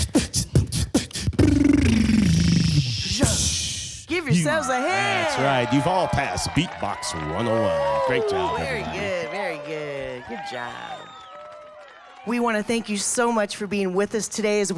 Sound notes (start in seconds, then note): 0.1 rapid drum beating; 5.5 crowd cheering; 9.2 crowd clapping